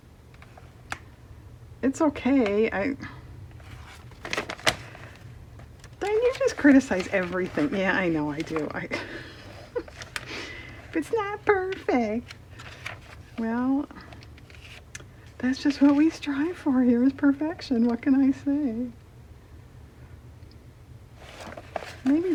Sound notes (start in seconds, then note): 8.9 laughs